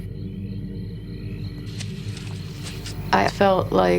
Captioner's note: rustling